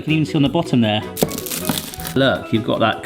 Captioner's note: pastry crunches